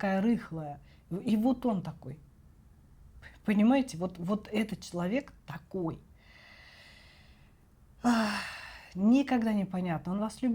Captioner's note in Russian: вздыхает